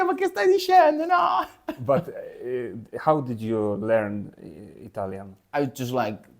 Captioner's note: laughs